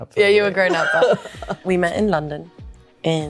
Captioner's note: laughs